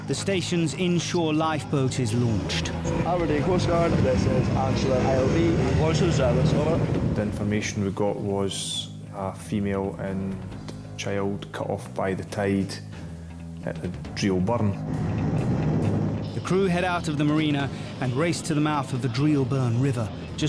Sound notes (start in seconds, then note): 15.7 boat engine revving